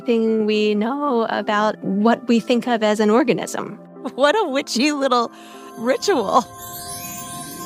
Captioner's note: laughs